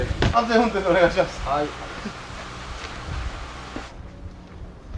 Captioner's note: laughs